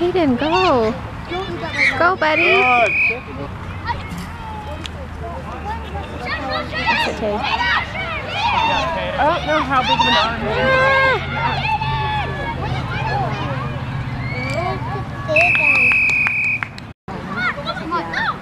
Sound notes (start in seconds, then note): 2.2 whistle blowing; 6.6 players yelling "Tayden"; 15.3 whistle blowing